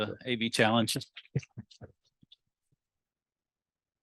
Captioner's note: chuckles